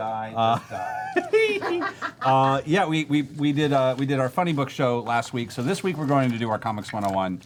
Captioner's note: laughs